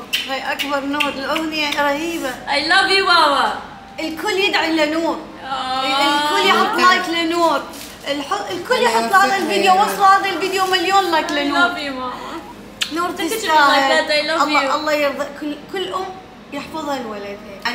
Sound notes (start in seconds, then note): 0.0 smooches; 12.7 smooches